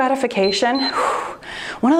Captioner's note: timer beeps